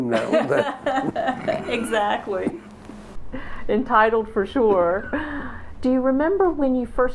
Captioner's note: laughter